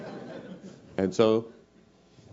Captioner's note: laugh